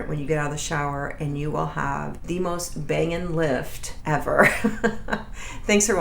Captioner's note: laughs